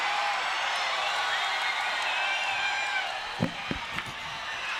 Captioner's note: crowd cheers